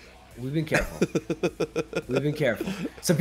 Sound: laugh

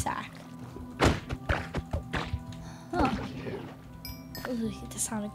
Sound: rapid thuds

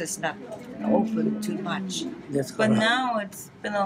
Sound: foreign language

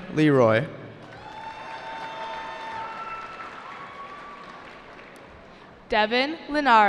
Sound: cheering

